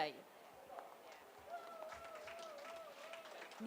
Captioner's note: applause